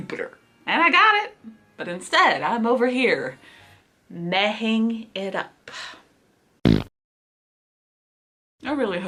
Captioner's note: fart noise